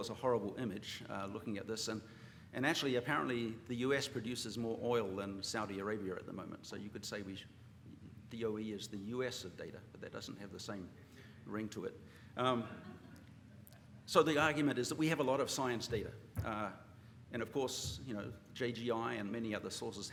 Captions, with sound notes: it's a horrible image looking at this. And actually, apparently, the US produces more oil than Saudi Arabia at the moment. So you could say DOE is the US of data. But that doesn't have the same ring to it. [LAUGHTER] So the argument is that we have a lot of science data. And of course, JGI and many other sources